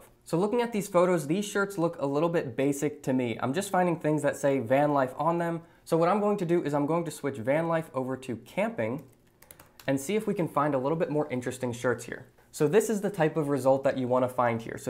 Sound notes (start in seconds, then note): 9.4 keyboard clacking